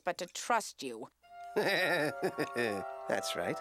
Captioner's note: laughing